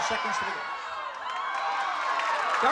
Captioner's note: applause and cheering